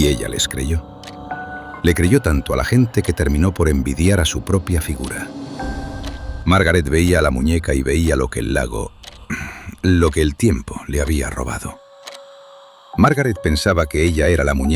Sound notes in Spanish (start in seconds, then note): 9.2 Pausa abrupta, se aclara la garganta de forma tensa